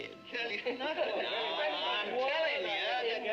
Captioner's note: men chattering